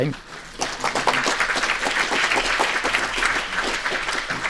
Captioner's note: applause